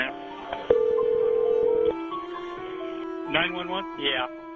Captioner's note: ringing phone